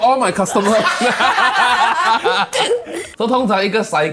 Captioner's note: laughs